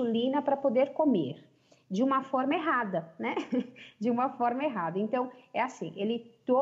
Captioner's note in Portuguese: risos